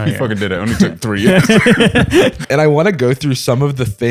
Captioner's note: laughter